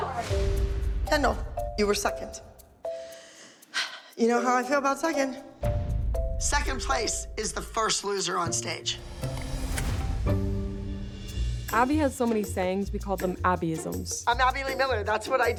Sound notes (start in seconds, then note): 2.5 sighs heavily